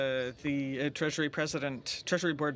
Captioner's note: speaking French